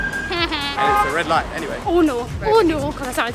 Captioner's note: car horn